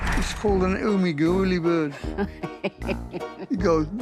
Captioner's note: Sharon chuckles